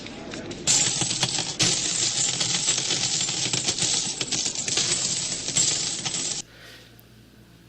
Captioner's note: coins being dropped on table